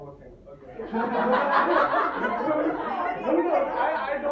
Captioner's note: laughter in audience